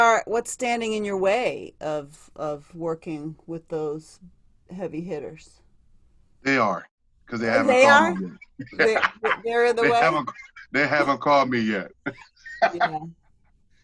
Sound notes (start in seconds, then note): 8.6 laughter